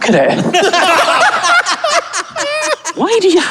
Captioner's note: group cackling